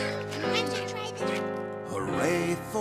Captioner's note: little cats chattering